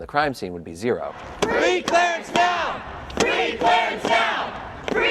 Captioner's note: crowd